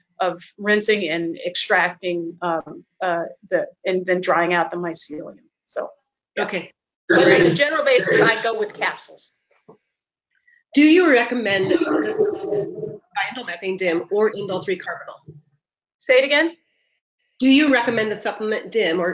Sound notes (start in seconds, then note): 11.4 murmurs; 11.4 mic interference